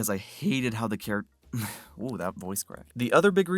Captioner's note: exhale